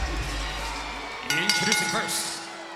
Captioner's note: bell rings